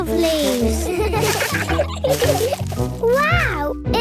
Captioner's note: laughter